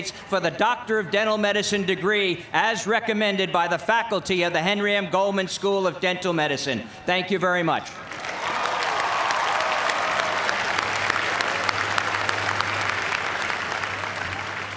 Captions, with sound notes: for the Doctor of Dental Medicine degree, as recommended by the faculty of the Henry M. Goldman School of Dental Medicine. Thank you very much. (cheers and applause)